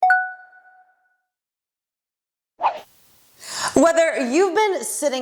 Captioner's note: bell dings